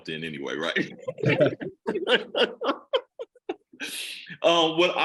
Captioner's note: all laughing